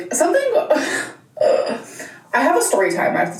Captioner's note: laughs and groans